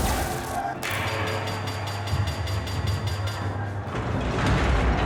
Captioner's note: gun firing; dramatic music